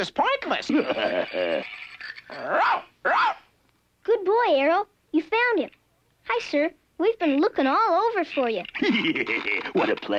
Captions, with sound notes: (laughing) (Arrow barking) - Good boy, Arrow. You found him. Hi, Sir. We've been lookin' all over for ya. (laughing) - What a pleasure.